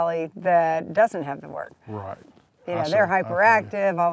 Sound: both laugh

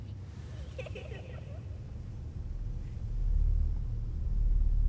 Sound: child giggles

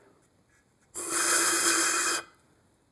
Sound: blowing

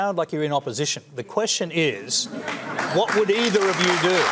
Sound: applause

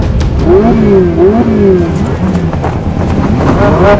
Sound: engines revving

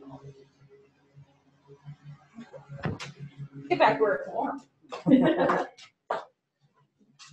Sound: laughs

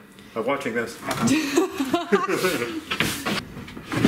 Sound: laughing

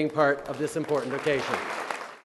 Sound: applause

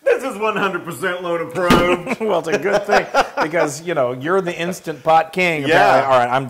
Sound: laugh

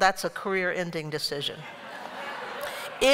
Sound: laughter

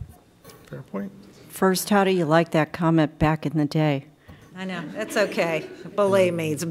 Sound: laughter

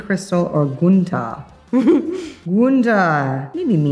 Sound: chuckling

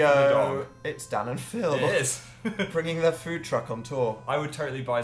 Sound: laughs

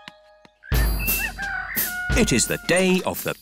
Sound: rooster crowing

